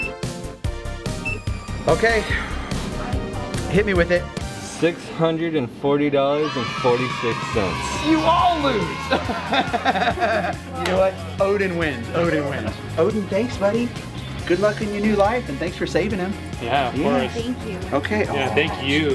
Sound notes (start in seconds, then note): 9.0 laughs